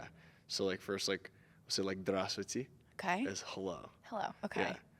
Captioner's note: speaking in Russian